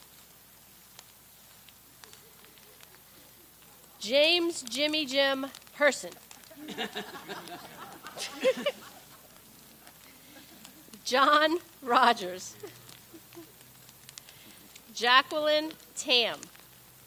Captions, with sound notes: (people laugh) James Jimmy-Jim Person. (all laugh) (laughs) John Rogers. Jacqueline Tam.